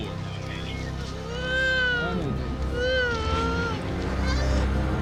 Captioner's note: crying